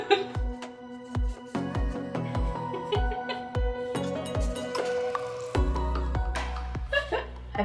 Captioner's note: chuckles; gentle music playing; chuckling